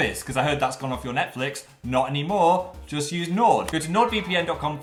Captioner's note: none